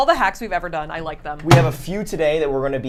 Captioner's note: closes microwave